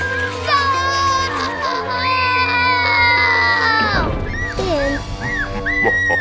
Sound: scream

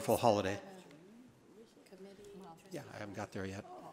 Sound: board member speaks faintly

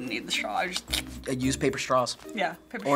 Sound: slurp

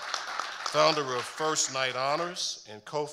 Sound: audience applauding

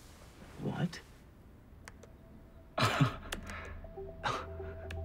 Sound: chuckles

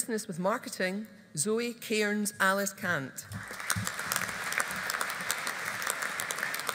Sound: audience applauding

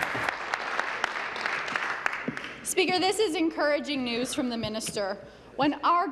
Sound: applause

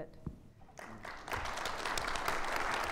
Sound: audience applauding

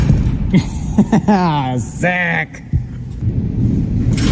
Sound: laughing

